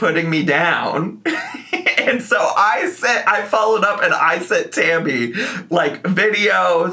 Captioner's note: laughs